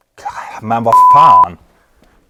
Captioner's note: speaks in foreign language